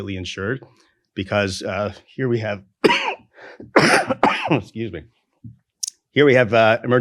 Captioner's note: coughs